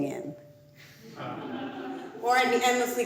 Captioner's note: audience laughs